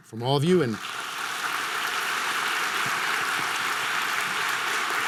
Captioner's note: audience applause